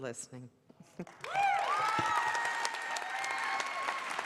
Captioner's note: applause